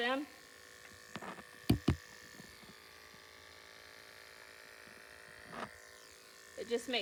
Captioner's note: buzzing noises